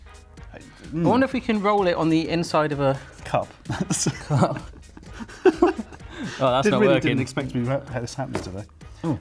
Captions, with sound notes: I wonder if we can roll it on the inside of a cup. (laughing) That's not working. - Didn't really didn't expect to be wrapped, have this happen today.